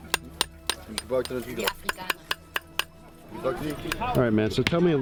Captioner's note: foreign language